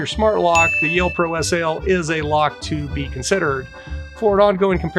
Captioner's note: bell dinging